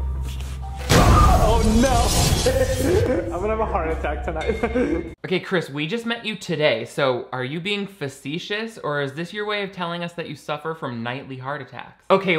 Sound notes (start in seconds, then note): 0.8 glass smashing